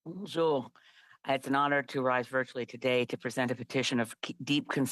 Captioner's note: speaking French